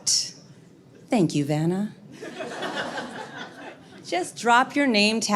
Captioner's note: audience laughs